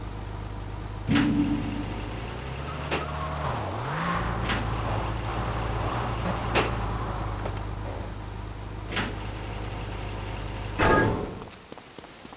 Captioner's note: sirens wailing